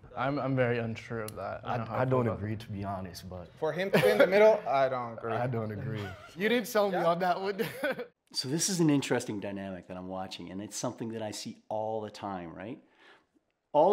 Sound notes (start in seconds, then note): 6.8 laughs